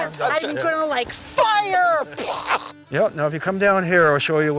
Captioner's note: imitating explosion